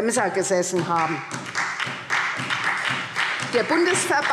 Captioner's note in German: Beifall SPD